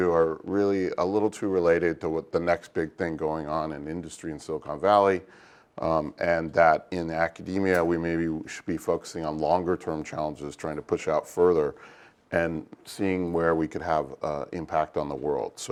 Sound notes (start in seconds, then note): none